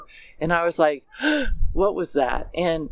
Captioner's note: gasping air